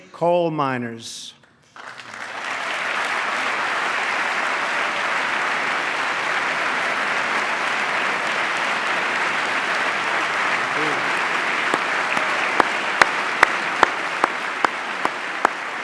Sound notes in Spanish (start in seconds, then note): 3.2 aplauso